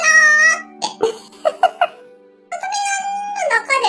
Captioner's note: laughs